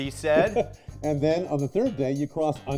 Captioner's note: laughs